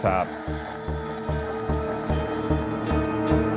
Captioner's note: crowd cheering